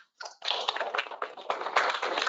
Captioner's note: applause